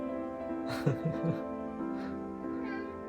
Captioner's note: chuckles